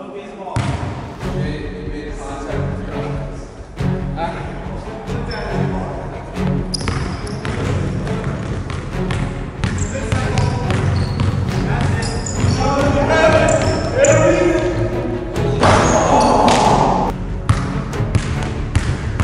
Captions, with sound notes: - Go get the ball. (dramatic music) - He made contact with your eyes. - That's it. (yelling)